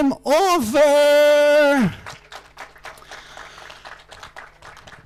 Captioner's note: crowd applauding